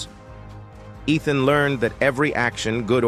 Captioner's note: voiceover